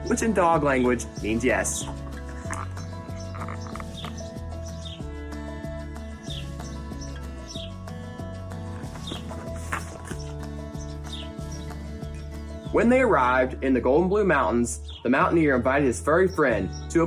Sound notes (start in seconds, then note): 2.5 birds chirp; 2.5 upbeat music